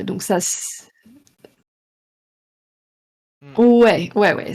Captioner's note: silence